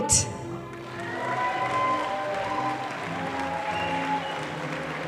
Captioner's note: audience applauding